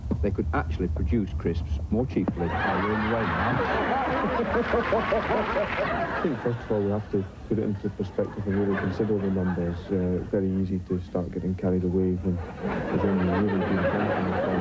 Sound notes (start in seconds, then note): 2.3 laughter